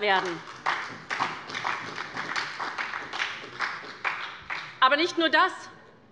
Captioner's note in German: Beifall bei Abgeordneten der SPD